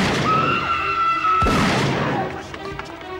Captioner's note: rapid tense orchestral music; people screaming; gun firing; rapid tense orchestral music